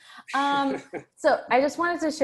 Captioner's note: laughs